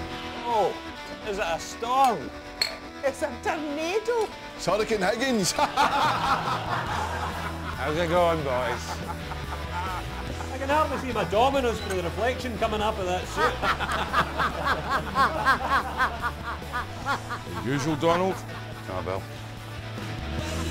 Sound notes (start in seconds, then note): 5.5 laughter; 13.2 laughter; 13.3 laughter in the bar